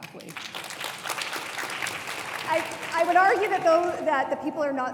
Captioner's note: audience applauds